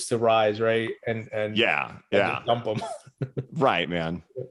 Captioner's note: laughs